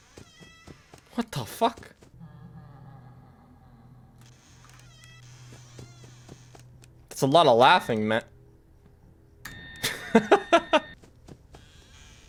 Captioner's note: laughs